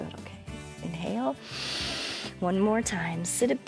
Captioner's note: inhales